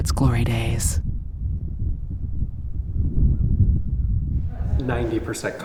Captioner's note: low wind rumbling